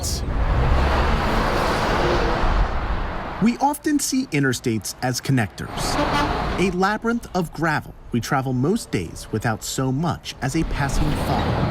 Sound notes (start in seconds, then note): 1.5 traffic passing; 5.8 horn honking